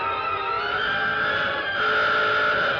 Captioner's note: alarm sounds